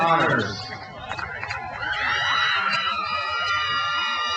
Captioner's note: crowd cheers